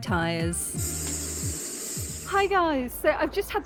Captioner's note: air hissing